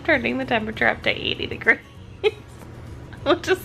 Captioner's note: laughs